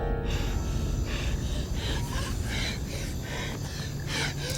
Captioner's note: Ura panting